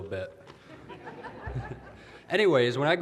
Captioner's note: audience laughter